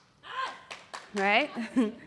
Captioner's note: shout and clap